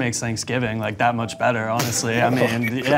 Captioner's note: chuckles